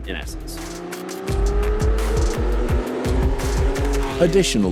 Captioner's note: car revving